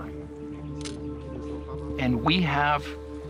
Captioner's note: camera clicks